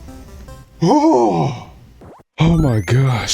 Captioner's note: sigh of relief